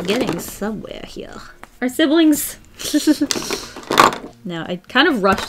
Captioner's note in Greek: χαχανητά